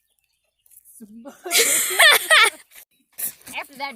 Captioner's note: laugh